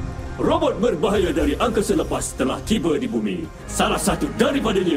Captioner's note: dramatic music playing; robot